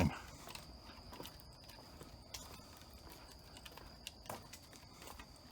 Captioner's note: footsteps tapping